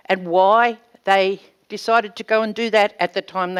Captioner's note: none